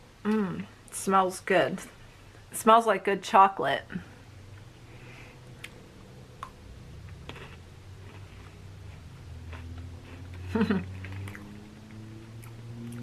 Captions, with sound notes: Mmm, smells good. Smells like good chocolate. (crunching) (laughs)